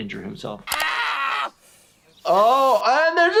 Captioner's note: Ehren screams